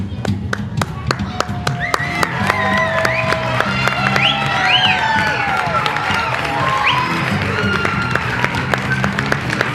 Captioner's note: loud applause, cheering, and whistling throughout bows